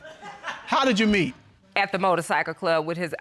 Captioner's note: audience laughing